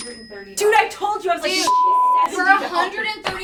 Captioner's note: beeps